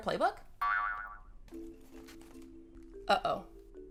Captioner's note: spring boings